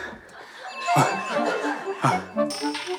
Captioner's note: panting; breathing that captures his desire to win